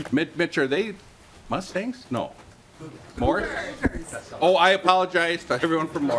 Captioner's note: laughing